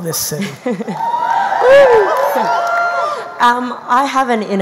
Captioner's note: people cheering